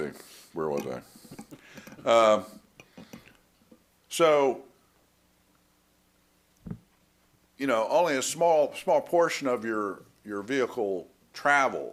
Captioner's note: laughter